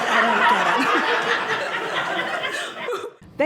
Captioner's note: audience laughing